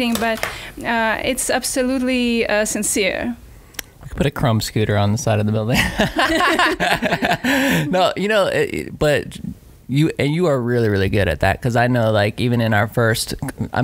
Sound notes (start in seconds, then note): 5.8 laughing